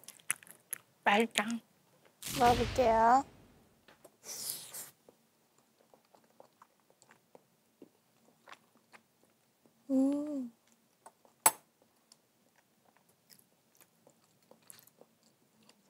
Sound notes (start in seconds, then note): 4.4 slurp